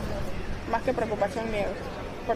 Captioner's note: speaking non-english